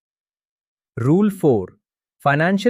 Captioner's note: thoughtful